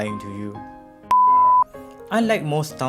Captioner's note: beep